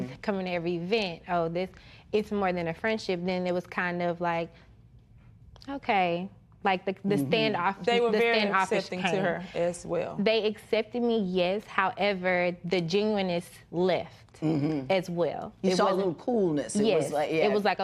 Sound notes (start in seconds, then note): none